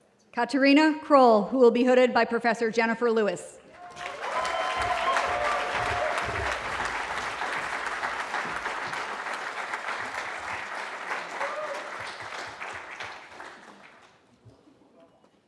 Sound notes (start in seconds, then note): 3.9 cheering